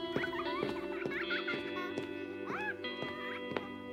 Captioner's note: baby laughing